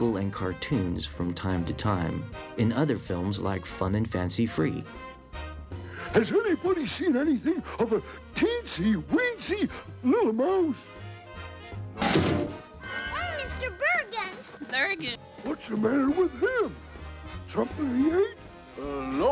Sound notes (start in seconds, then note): 12.0 thuds